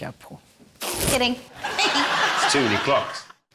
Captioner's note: balloon farts